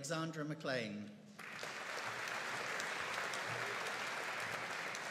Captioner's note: audience applauding